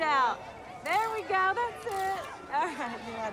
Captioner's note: camera shutter clicks